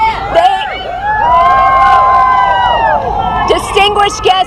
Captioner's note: cheering